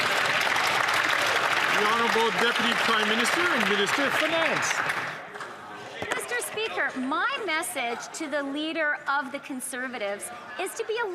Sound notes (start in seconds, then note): 4.9 some Applause